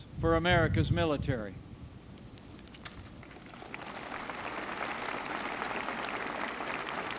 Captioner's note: applause